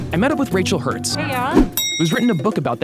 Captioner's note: bell dings